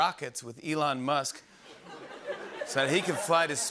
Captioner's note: laughter